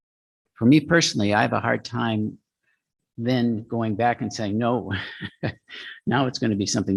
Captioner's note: laughs